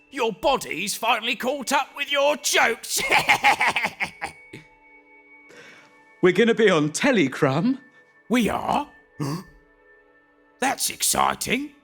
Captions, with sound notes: Your body's finally caught up with your jokes! [laughs] We're going to be on telly, Crum We are? [gasps] That's exciting!